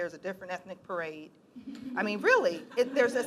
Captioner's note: laughing